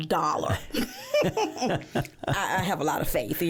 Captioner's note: both laughing